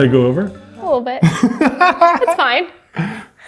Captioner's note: laughs